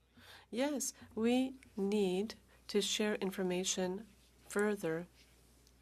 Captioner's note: speaking French